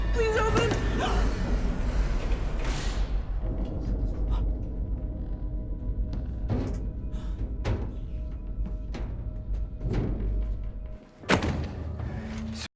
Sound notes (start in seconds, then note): 1.5 gasps; 2.2 elevator door whirring; 4.4 eerie music; 6.6 elevator top thudding; 11.2 book thuds